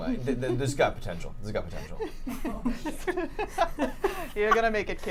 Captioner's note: giggling